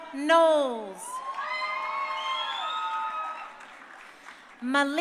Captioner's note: crowd cheering